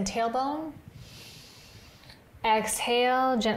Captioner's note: inhales